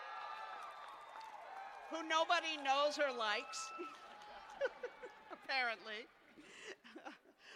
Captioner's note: cheers and applause; laughter